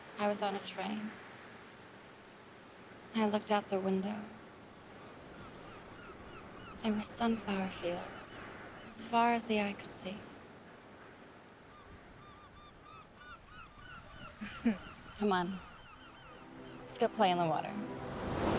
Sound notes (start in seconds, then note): 11.7 seagulls mewing; 14.4 Cecile chuckles